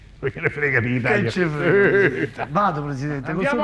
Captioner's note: laughing